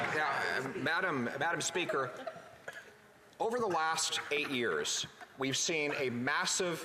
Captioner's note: some Applause